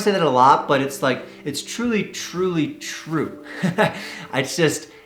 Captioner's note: laughs